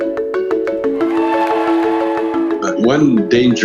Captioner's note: upbeat music; audience applauding